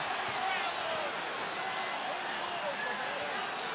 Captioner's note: crowd shouts